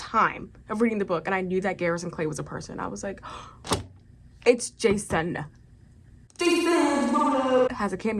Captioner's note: gasp